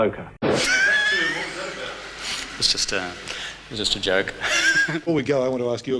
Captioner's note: laughs